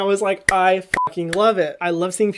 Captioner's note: beep